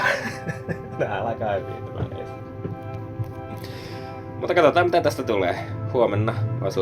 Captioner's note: laughter